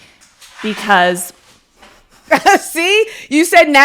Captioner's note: paper rustling